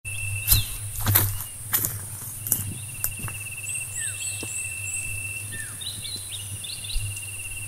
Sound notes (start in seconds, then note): 0.4 footsteps